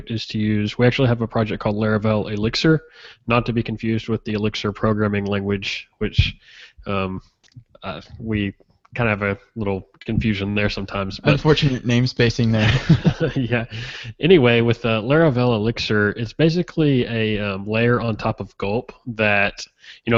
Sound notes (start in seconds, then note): 12.5 chuckles; 12.6 laughs softly